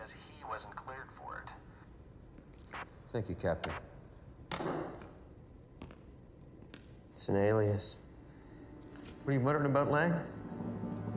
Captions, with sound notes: because he wasn't cleared for it. - Thank you, Captain. (radio thuds) (footsteps tapping) - It's an alias. - What are you muttering about, Lang?